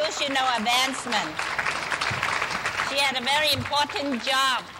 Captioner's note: clapping